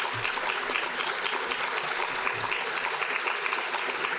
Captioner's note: audience applauding